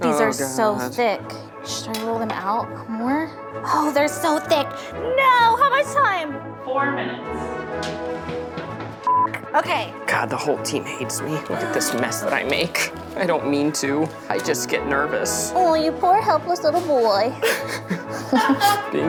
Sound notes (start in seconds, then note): 9.0 beeps; 17.3 laughing